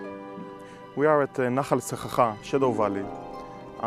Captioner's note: speaking in Hebrew